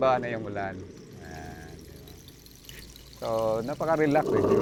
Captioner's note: creates raining sound